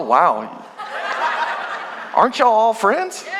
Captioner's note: congregation laughing